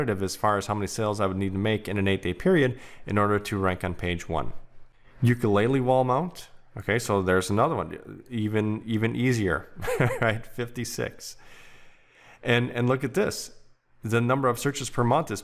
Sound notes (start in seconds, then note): 9.8 chuckles